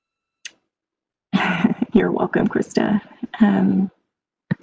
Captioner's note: laughs